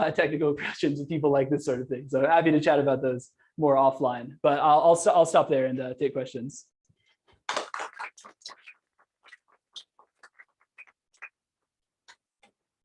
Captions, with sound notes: technical questions if people like this sort of thing. So happy to chat about those more offline. But I'll, I'll s-- I'll stop there and take questions. (applause)